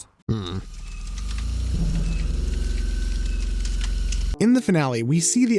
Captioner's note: flames crackling